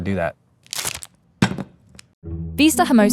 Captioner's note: wrapper ripping; burrito thumping